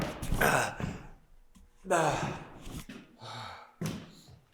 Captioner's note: Jacob groaning; Jacob panting